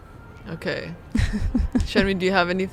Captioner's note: laughing